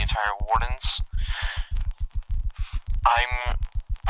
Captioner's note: exhales